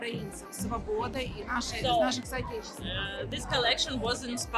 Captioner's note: speaking Ukrainian